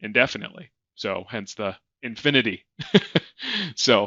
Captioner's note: laughing